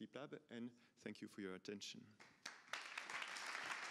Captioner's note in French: applaudissements